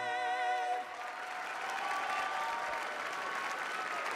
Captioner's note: cheering